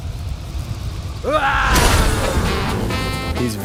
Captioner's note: yells playfully